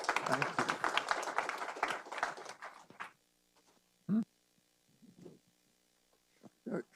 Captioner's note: applause